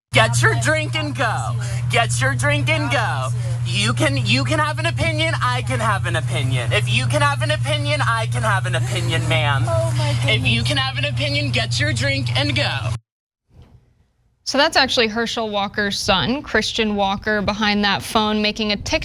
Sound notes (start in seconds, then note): 8.7 laugh